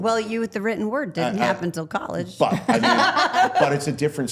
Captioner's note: laughs